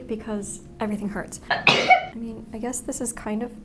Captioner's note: sneezes